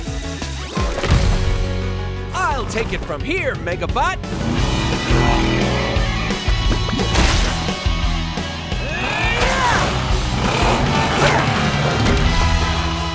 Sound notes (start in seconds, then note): 8.7 grunting